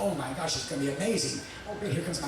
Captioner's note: police sirens blaring